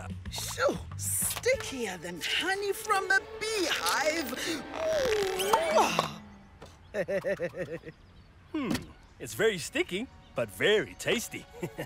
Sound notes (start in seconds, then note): 6.8 chuckles